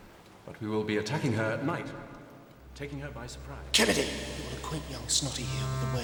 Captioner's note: voice fades